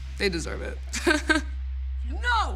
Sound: laughs

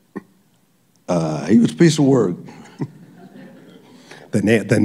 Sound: laughter

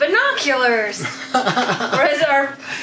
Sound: laughs

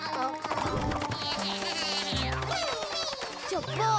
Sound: spanish-style guitar; snarky electronic laughter

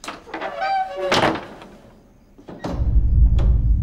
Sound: door slamming; anxious music

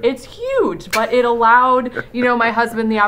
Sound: chuckles

